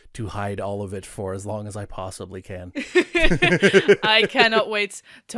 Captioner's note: laughter